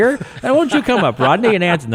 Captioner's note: podcasters laughing